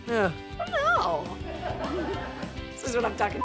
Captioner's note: laughter